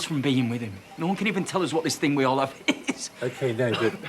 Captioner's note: coughs